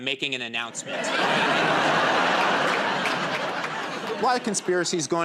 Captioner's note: laughter and applause